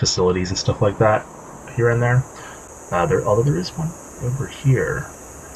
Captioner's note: thinking noises